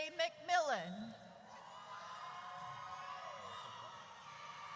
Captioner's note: audience cheers